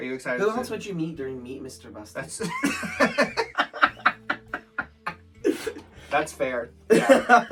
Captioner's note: laughs